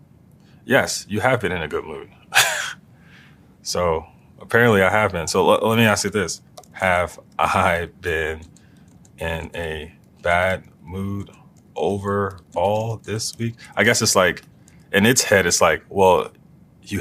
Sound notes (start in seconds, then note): 2.3 laugh